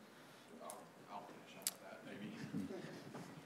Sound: laughs

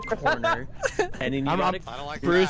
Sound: laughter

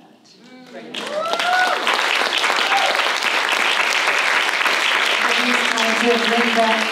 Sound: applause

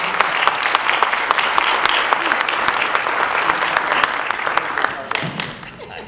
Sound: applause

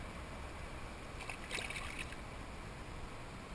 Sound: splash!

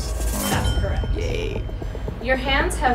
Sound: dramatic drum roll; high pitched bell dings

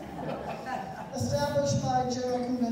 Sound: laughter continues

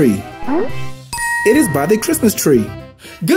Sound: bell dings

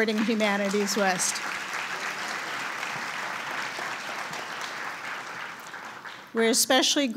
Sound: applause

